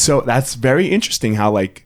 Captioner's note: none